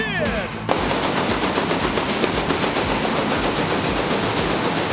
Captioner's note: pyrotechnics bursting